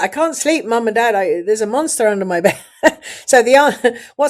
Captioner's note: laughs